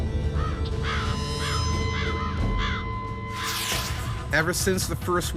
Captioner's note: crow crowing